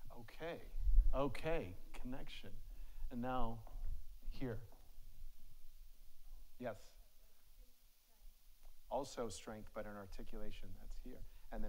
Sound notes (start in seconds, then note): 6.7 faintly speaking